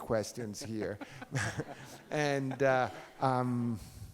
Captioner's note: Browne laughs